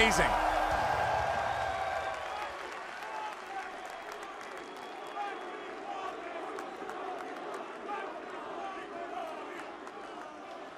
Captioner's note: cheers & applause